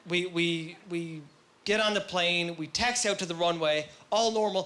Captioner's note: none